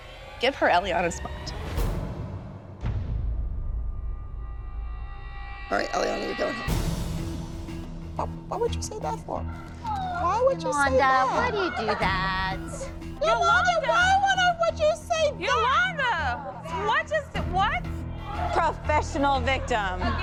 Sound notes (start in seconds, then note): 9.7 crying